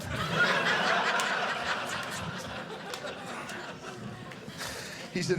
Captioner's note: audience laughing